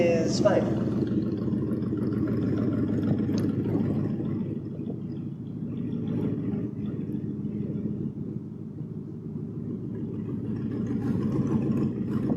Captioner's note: engine rumbling